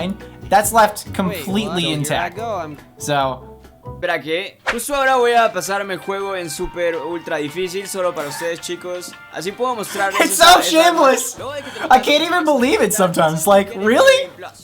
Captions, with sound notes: That's left completely intact so [Spanish] It's so shameless I can't even believe it sometimes like really